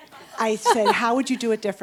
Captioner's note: audience chuckles